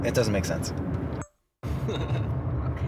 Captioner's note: camera recording sound